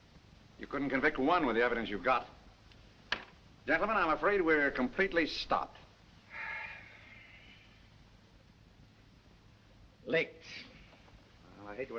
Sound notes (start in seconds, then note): 6.3 sigh